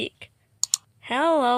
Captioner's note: click